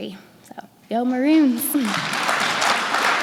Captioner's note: applause